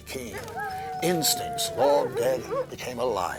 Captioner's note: dogs howling